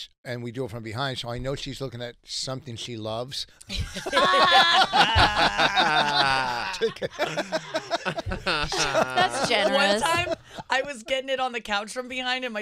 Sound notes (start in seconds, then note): 4.4 laughing